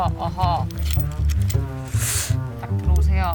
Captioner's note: slurping sound